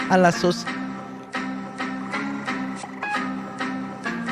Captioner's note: windows sounds